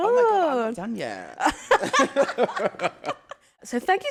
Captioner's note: laughter